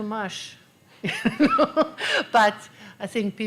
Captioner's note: laughter